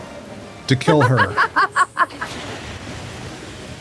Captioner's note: laughter